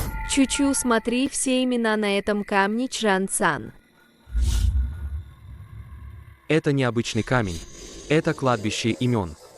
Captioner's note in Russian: фыркает